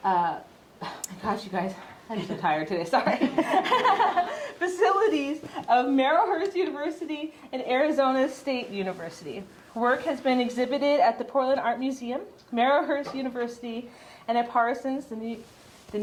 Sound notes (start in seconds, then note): 3.2 group laughing